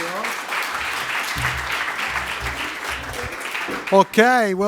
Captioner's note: audience applauds